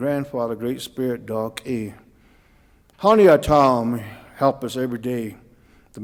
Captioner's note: speaking Cauijoga